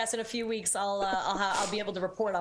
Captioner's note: laughter